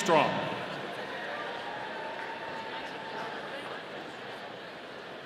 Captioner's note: audience cheering